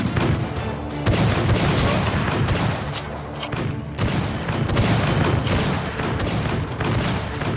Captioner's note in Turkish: Silah sesleri